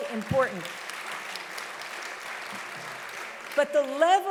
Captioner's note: audience applauding loudly